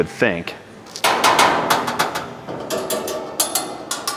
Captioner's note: metal clanking